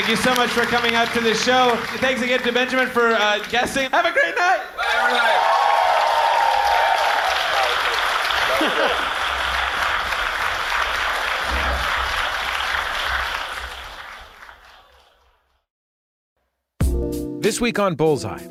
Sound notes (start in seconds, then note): 4.9 applause